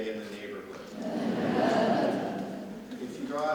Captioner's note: audience laughs